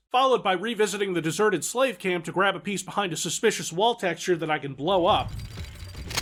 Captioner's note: none